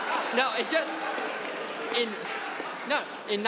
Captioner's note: audience laughing